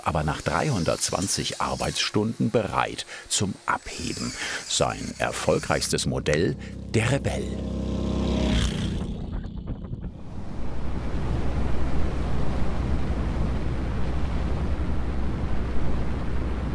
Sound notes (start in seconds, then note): 7.6 engine noise; 10.8 engine noise and hiss